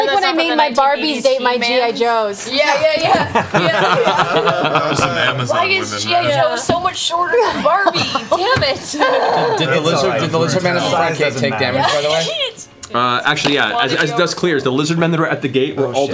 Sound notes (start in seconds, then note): 3.1 laughter